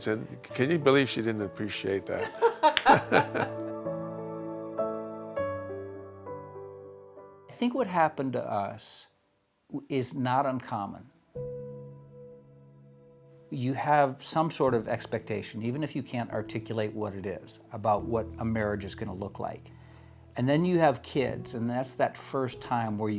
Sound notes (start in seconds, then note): 2.1 both laugh; 2.6 gentle music continues; 11.7 gentle music